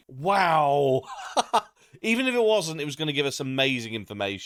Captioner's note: laugh